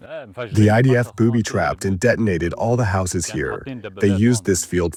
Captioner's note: through translator